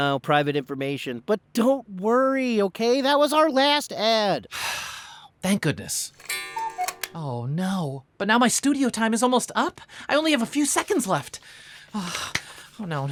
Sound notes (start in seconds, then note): 5.3 sighs; 6.2 cuckoo clock sounds